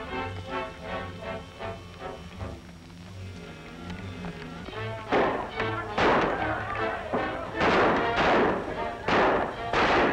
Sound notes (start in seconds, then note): 2.4 gunshots